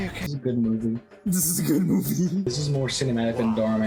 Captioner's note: chuckling